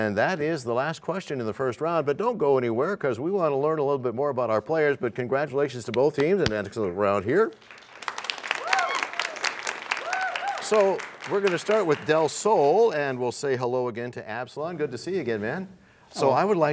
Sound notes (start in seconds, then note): 7.8 cheers and applause